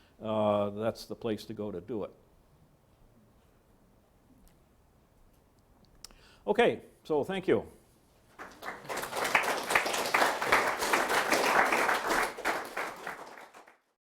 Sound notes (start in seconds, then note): 8.3 audience applauding